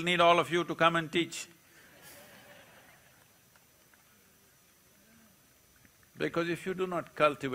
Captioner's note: laughter